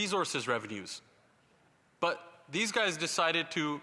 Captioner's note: none